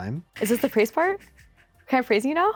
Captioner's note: chuckles